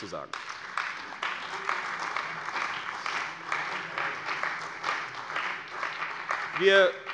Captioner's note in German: Beifall bei der CDU und dem BÜNDNIS 90/DIE GRÜNEN